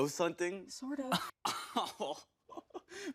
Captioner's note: Steve laughs